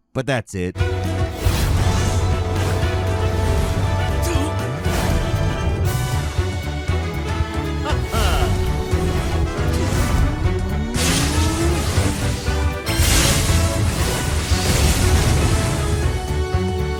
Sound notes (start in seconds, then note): 1.0 robust music; 7.7 chuckles; 8.8 robust music